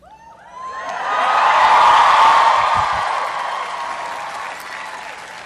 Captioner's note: cheering